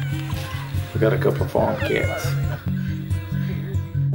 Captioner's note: cat meows